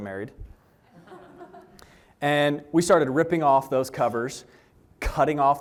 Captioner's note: laughter